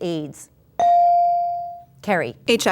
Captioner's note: ding